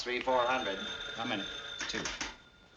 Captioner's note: phone ringing